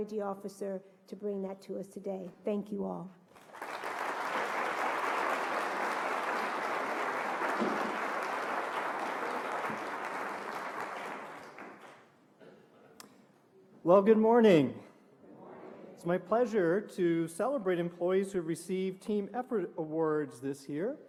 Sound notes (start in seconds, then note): 8.3 applause